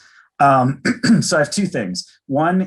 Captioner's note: clearing throat